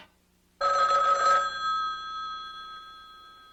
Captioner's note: phone rings